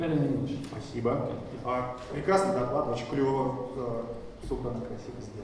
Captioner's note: speaking in foreign language